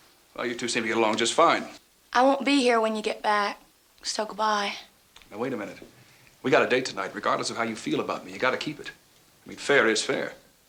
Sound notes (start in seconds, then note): none